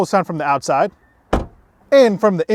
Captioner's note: car door thuds